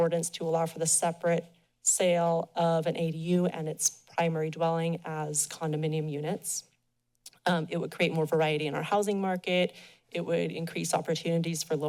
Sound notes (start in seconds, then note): 6.6 pause